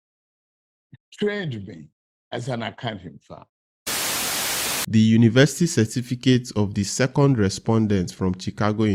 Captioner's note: Static